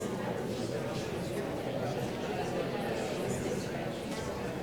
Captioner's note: people talking